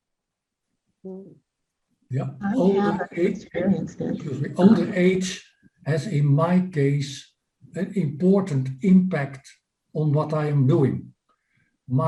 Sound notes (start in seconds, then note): 2.1 group chattering